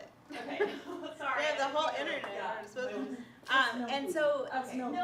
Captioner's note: laughter